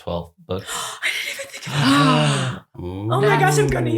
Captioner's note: gasps